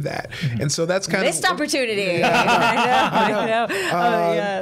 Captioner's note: others laughing